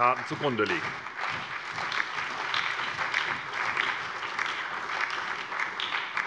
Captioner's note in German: Allgemeiner Beifall